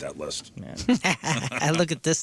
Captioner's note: laughing